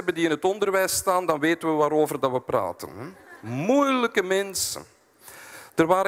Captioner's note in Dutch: publiek lacht